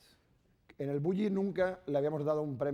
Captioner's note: speaking spanish